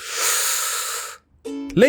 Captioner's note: slurps